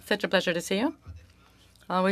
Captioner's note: speaking French